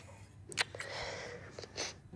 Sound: kisses; sniffles

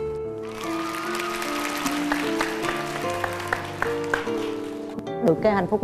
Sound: applause

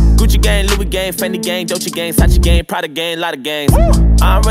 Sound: woo

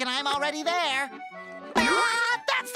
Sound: laughing

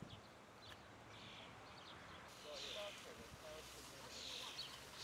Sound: indistinct conversation

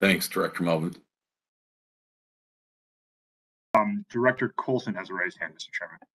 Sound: A pause

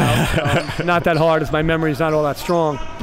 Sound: laughing

